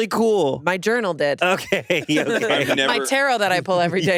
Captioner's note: laughs